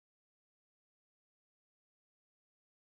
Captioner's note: none